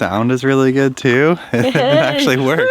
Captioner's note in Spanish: riendo